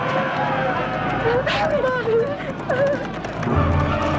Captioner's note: raiders shouting; whimpers; dramatic orchestral music